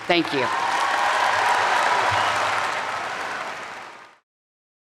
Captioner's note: audience applaud